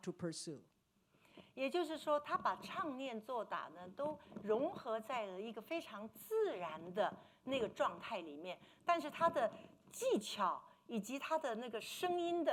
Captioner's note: speaking Mandarin